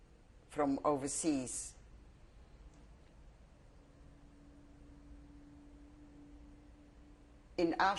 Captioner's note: pauses for 6 seconds